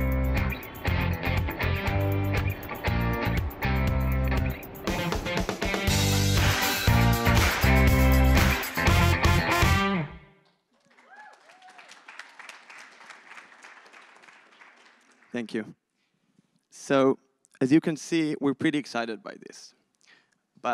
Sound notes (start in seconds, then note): 10.6 applause